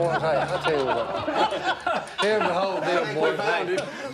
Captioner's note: laughter